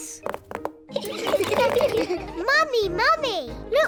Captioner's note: all laugh